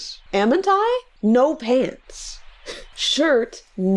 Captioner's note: laughs